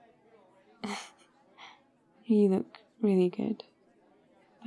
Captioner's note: laughs